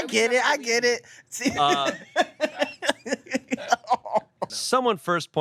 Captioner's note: everyone laughs